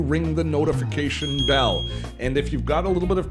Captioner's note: bell ringing